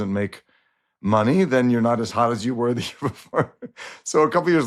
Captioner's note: chuckles